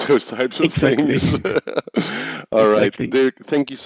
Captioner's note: laughs